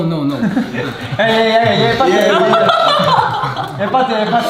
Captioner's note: cracks up